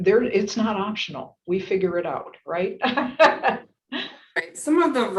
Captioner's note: laugh